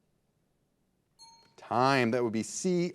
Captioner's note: signal dings